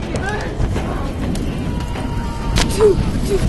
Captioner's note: morgan screams